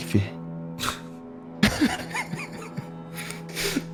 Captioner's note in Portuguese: Risadas